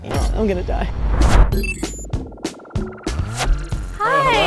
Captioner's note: electronic beeping